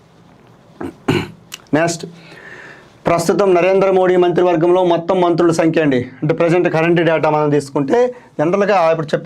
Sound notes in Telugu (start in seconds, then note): 0.8 గొంతు సవరించుకోవడం